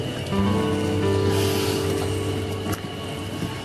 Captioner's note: sighs